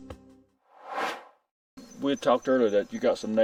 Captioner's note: air swooshes